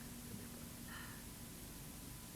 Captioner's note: sighs